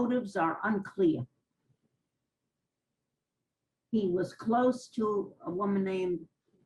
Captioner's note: pauses for 3 seconds